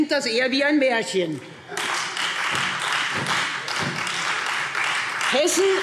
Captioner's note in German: Beifall Freie Demokraten und SPD